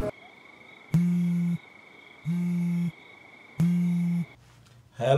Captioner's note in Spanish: Timbre en el telefono